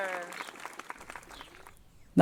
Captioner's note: applause